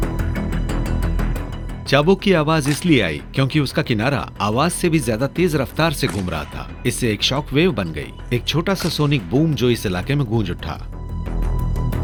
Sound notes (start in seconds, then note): 0.8 whip cracks